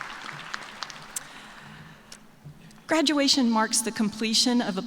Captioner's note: applause